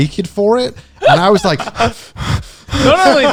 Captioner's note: shivers